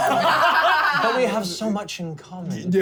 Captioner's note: laughter